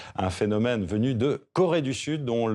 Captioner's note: soundbite of archived recording